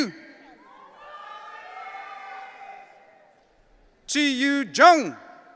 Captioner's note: audience cheering